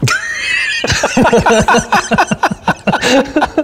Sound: laughing

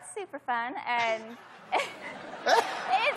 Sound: laughs

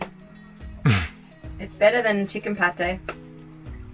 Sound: laughs

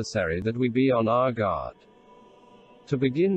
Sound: voice reads

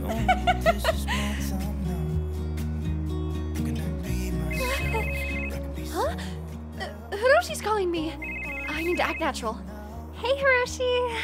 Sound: gasps; answer facetime call

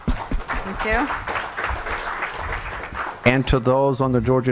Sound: audience applauding

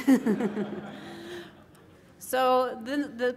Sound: laughter

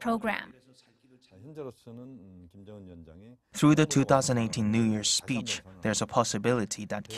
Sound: Korean

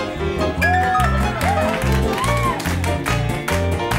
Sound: people cheering

